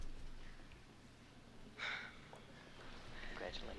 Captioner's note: sighs